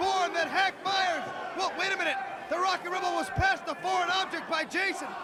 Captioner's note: crowd chatter